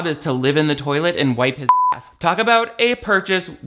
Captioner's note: beep